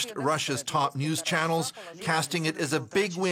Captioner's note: foreign language